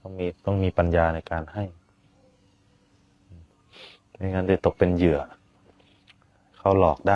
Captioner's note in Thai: เสียงสูดหายใจ